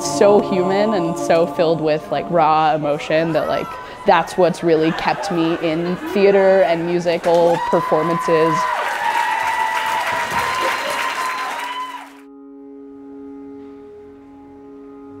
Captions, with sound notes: It's so human and so filled with like raw emotion that like that's what's really kept me in theater and musical performances. [AUDIENCE CHEERING] [SOMBER MUSIC]